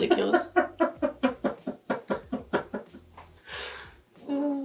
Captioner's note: laughing